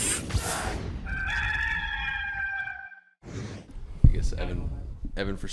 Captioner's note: rooster crowing